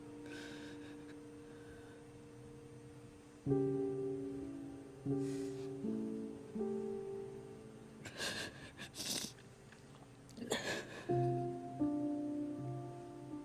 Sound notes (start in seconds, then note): 8.2 crying; 10.4 soft piano music